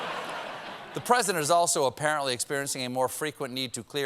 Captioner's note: laughter